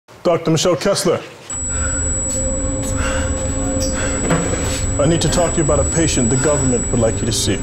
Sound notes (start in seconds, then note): 1.5 ear ringing, heavy breathing